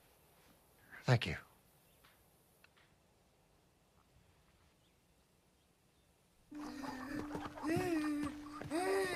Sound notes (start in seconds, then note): 6.5 moaning